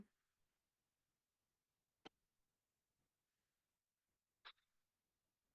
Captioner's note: audio cuts out